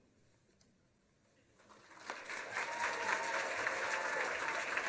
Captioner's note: applause